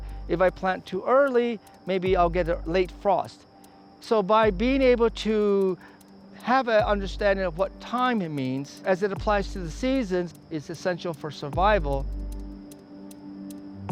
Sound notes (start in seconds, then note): none